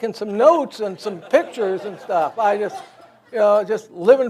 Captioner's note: audience laughs